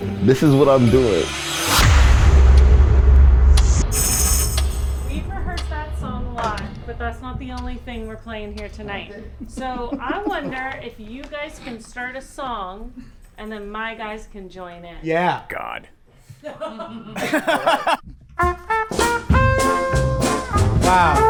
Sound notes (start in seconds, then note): 4.0 tambourine jingles; 16.4 laugh; 18.3 exciting jazz music